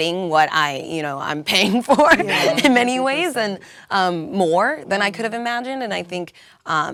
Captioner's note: laugh